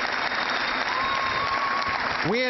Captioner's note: cheering